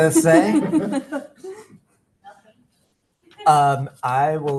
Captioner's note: background laughter